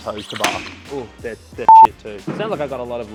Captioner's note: beep